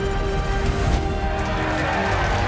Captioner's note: cheering; rockets; impact